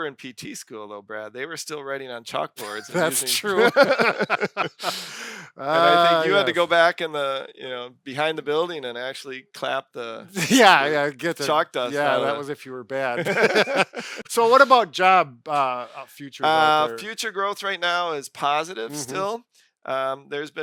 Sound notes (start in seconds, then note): 2.6 laughing; 13.1 laughing